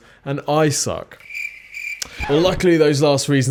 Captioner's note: crickets chirp